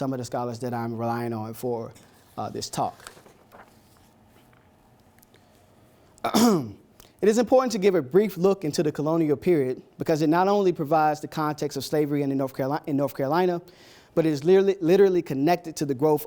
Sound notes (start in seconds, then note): 6.2 ahem